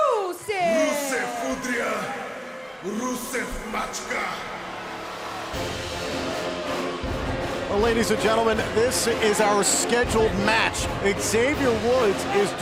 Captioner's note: speaking foreign language